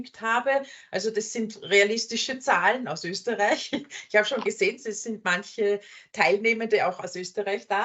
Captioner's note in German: lachen